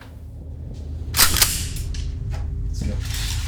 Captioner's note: gun cocks